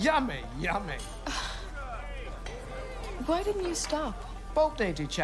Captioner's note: sighs